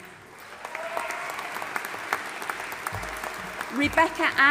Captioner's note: audience applauding and cheering